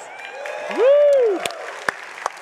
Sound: audience applauding

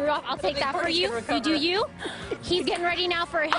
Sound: laughter

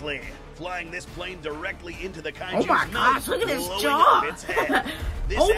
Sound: laughs

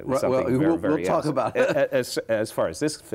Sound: chuckles

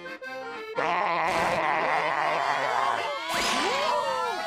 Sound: laughing

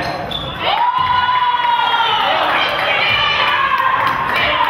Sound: crowd cheers

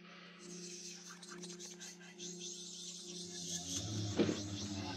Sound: eerie whispering

